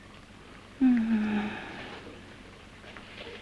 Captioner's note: whimpering